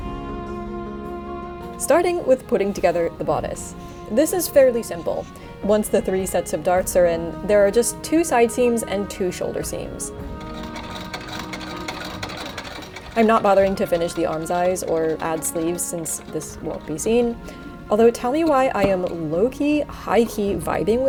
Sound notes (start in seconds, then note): 12.3 machine clicking